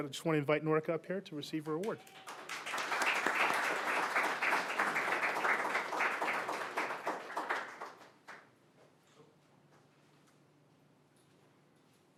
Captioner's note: applause